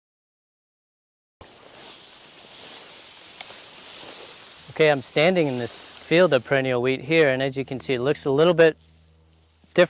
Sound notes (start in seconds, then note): 1.4 rustling sound